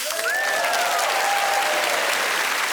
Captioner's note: whistles